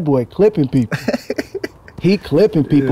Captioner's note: Edgar laughing